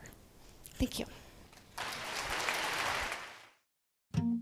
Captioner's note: applause